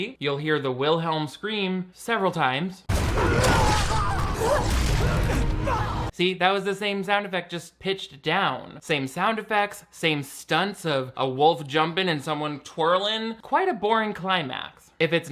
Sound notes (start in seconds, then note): 2.9 screaming; 3.7 wolf snarling